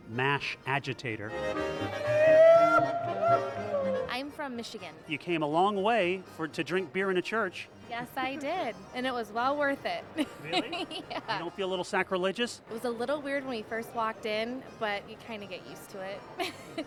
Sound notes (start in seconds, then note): 2.4 yelling; 10.2 giggling